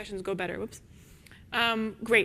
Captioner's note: microphone static buzzes